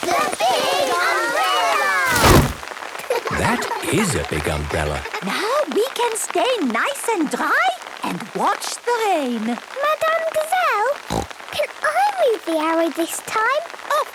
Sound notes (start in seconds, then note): 3.0 laughter; 11.0 snorting